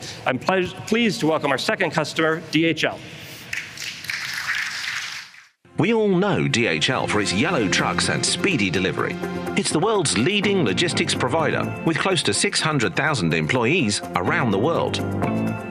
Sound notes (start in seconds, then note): 3.5 applause